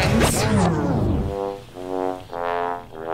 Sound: record scratching; trombone

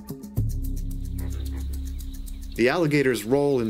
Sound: bullfrogs croaking

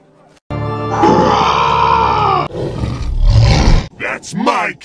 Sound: roaring

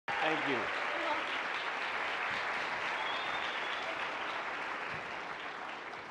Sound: audience clapping and cheering

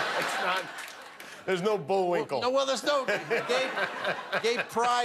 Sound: laughter

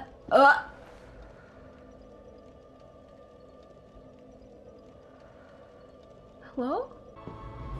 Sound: gay silence

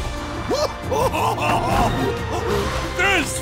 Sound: laughing

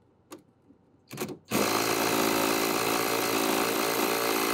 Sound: tool whirring

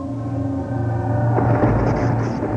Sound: scary music; electrical sounds; thunder

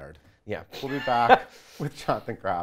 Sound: laughs

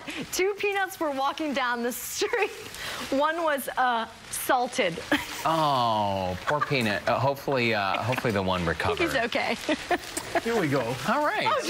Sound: laughter

